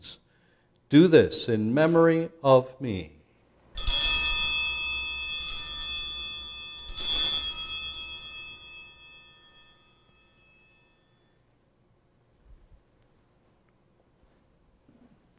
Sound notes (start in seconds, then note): 3.7 bells ringing